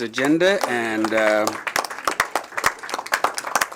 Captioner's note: applause